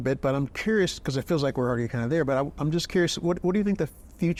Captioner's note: none